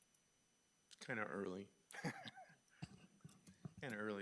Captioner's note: chuckles